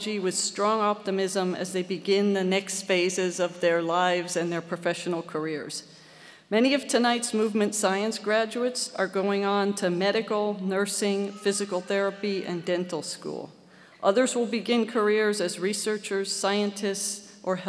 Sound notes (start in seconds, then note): none